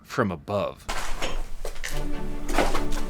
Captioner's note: clinking; exciting music